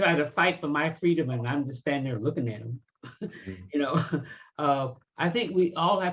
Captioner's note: laughs